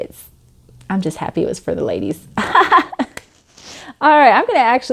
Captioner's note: laughing